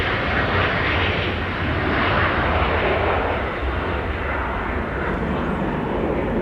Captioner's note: sound of aeroplane taking off